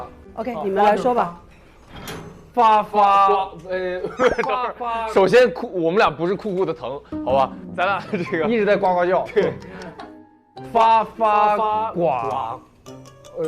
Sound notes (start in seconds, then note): 4.0 holding back laughter